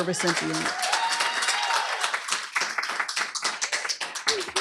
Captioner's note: applause, cheering